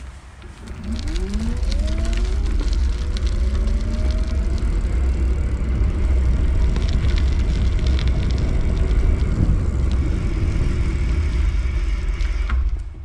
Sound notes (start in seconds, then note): 0.8 chains buzzing; 0.9 motor humming; 10.0 brakes grinding